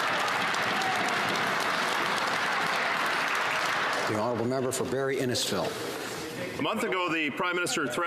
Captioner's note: some Applause